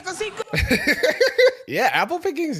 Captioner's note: laughs